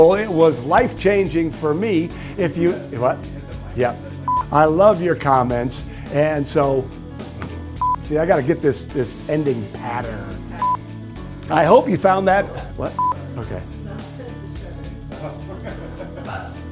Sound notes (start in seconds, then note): 4.3 beeping; 7.8 beeping; 10.6 beeping; 13.0 beeping; 15.2 laughter